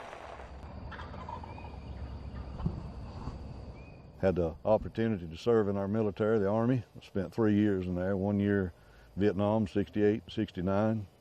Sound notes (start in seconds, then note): 0.8 turkey calling